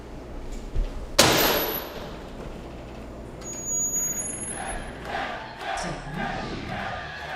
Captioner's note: crowd cheering